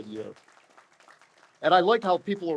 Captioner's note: audience applauds